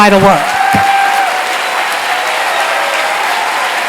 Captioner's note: applause